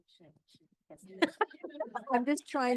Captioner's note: laughing